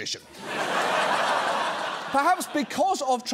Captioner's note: audience laughs